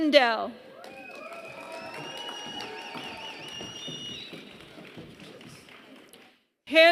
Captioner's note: applause